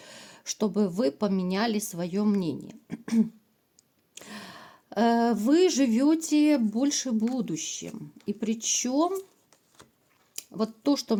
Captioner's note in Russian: откашливается